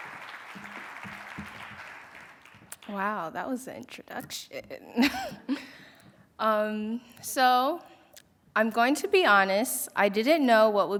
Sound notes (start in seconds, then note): 5.0 chuckle